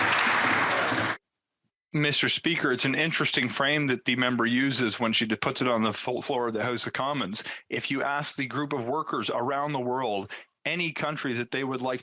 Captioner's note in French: voix de l'interprète